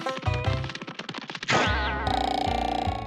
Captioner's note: boing